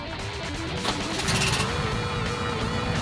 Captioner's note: engine starts